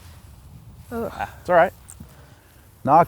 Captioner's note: sighs\